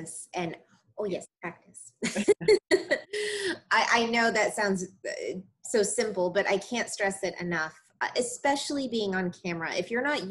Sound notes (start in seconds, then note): 2.0 laughing